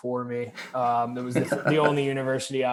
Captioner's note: laughing